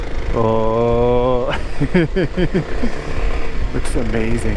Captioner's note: laughing